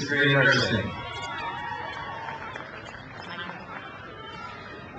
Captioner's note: crowd cheers